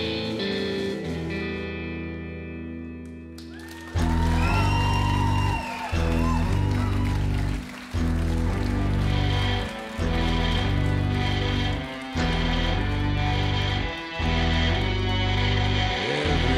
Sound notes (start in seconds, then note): 3.5 applause